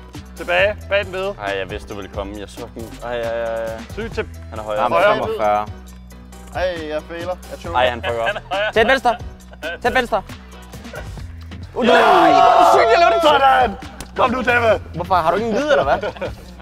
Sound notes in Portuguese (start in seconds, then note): 11.7 Gritaria